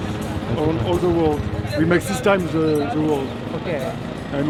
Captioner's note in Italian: Inglese